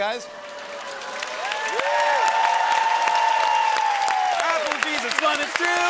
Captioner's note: cheering and applause